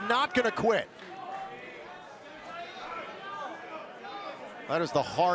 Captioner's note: crowd cheering